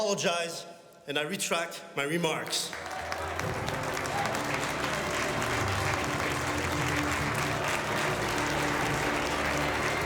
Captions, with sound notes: and I retract my remarks. (members applauding) (dramatic music)